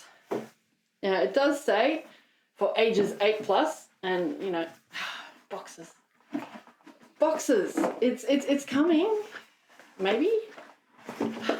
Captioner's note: sigh